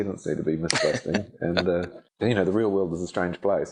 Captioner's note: laughing